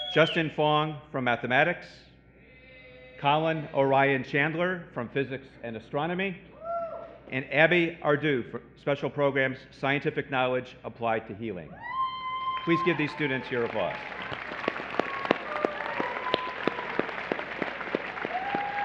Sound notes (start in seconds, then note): 11.8 cheering; 13.6 applause